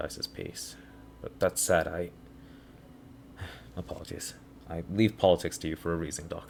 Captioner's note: sigh